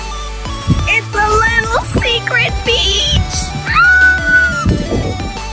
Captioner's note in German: Quietsch